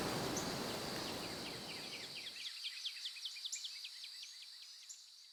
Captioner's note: birds chirping